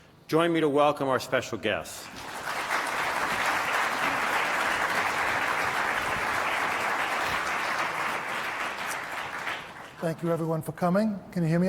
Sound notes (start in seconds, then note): 2.0 applause